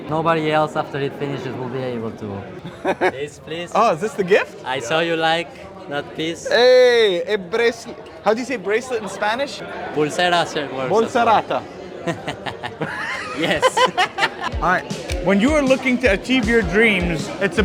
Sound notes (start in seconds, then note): 2.7 laughs; 12.0 laughs